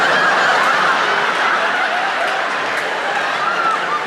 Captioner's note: audience laughs